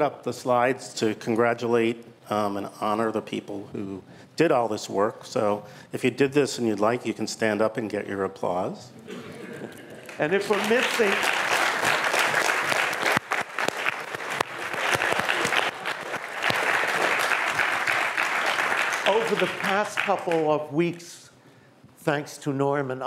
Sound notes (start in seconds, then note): 9.2 laughter; 10.8 applause